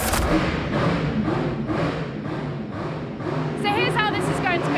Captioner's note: engine revving